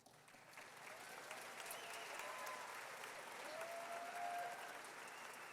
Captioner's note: audience clapping and cheering